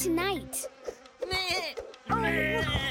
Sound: bleating

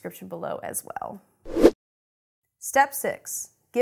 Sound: air rushes

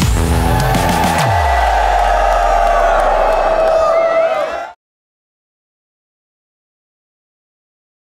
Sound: cheering

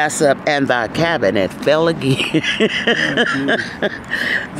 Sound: laughing

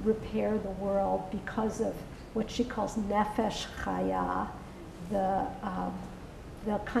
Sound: non-english

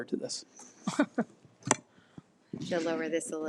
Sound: laughs

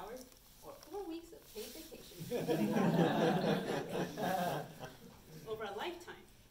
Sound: audience laughs

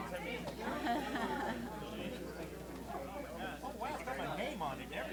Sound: laughter

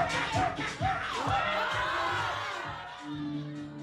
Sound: all cheer; ambient music

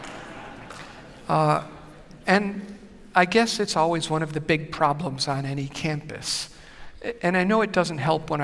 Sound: laughter

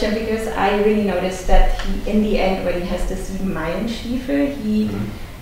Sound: foreign language

